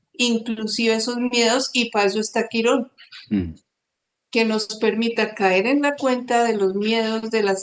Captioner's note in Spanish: carraspeo